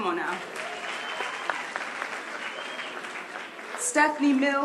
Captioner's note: applause